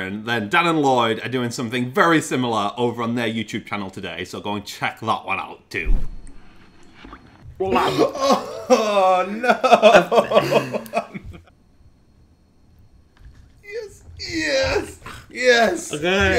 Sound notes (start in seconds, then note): 7.7 gargles; 10.8 both laughing